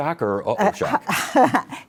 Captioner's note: laughs